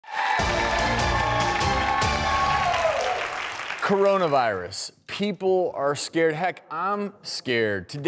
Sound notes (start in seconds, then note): 0.0 audience applauds; 0.3 upbeat music